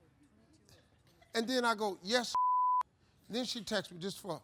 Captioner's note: beep